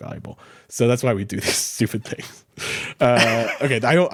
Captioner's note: laughs; chuckles